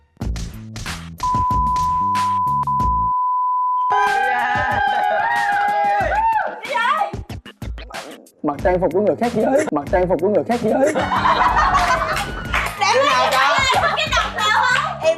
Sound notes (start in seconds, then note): 3.9 A scream